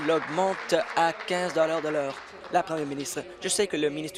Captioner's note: applause